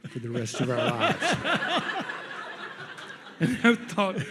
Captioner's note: audience laughs